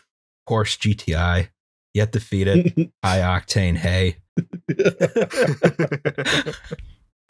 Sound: laughter

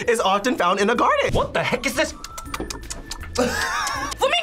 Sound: smacks lips

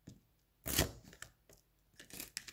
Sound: slice noises

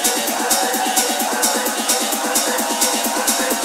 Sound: crowd cheering

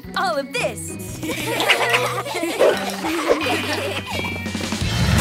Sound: laughing

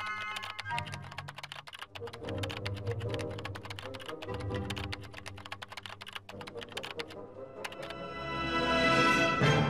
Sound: keyboard clicking

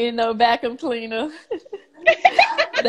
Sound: laughs

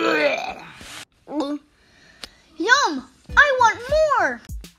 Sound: barfs; gulp

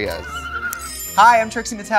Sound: laughs

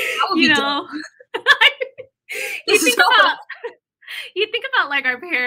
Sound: laughter

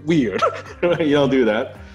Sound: laughing

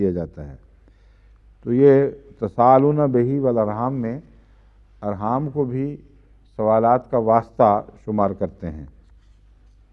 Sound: Arabic

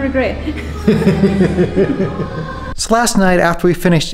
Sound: laughing

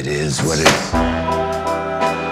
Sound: door slams

